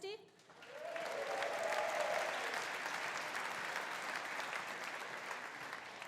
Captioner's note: audience applauding; audience cheering